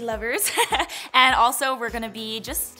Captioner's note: laughs